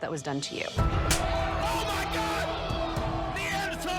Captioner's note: hand slapping